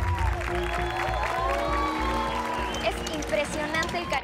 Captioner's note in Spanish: Ovación